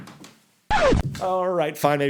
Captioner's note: record scratching